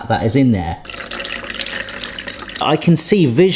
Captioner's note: juices pouring